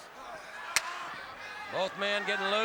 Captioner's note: crowd chatter